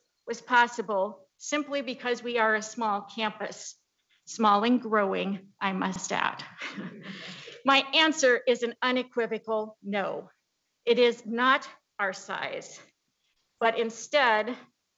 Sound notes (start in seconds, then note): 6.5 chuckles